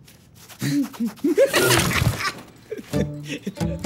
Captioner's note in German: lacht